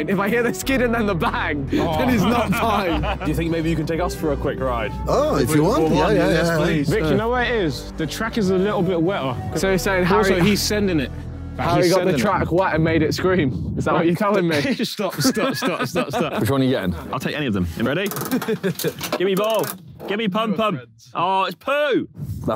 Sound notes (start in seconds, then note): 15.0 Vik laughing; 18.2 Simon laughing